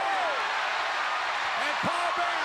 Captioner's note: crowd cheering